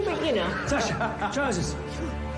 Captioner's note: laughs